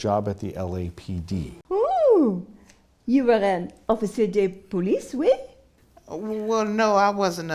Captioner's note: speaks French